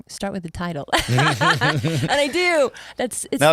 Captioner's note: both laugh